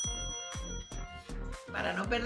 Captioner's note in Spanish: ruido: diiiinggg